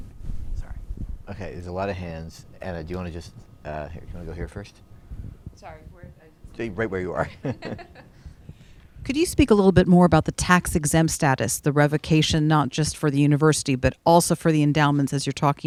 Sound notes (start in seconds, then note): 7.1 laughs